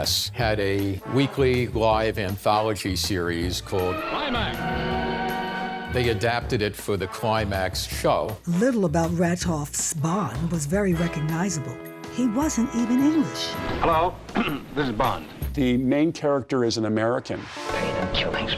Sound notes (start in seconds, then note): 14.3 in american accent